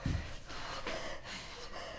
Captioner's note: Belle panting